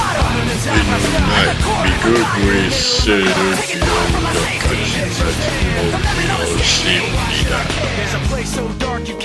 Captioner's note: speaking korean